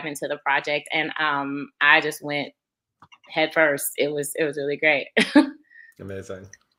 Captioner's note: laughs